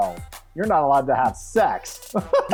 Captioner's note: laughs